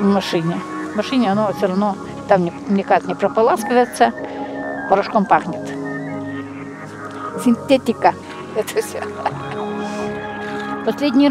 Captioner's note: laughs